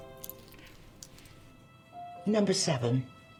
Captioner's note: keys jingling